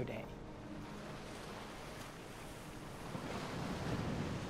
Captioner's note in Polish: dźwięk płynącej wody